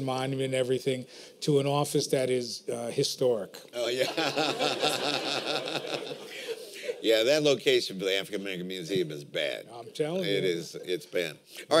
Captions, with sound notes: Monument and everything, to an office that is historic. [LAUGHTER] Yeah, that location for the African-American Museum is bad. I'm telling you. It is bad.